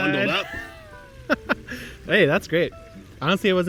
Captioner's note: chuckles